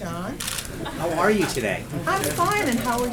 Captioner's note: laughter